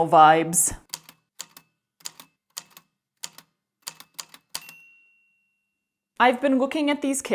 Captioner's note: A typewriter clicks away, then dings